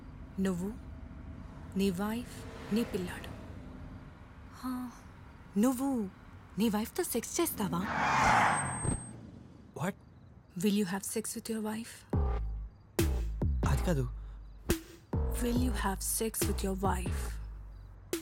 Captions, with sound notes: You, your wife and your son. Do you have sex with your wife? (Brakes squeal) Don't! What? Will you have sex with your wife? Not that... Will you have sex with your wife?